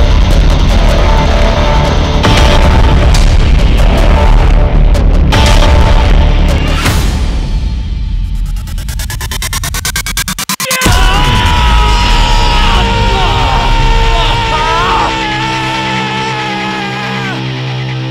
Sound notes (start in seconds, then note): 10.6 Rahat screaming; 12.0 Roy groaning